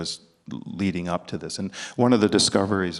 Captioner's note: none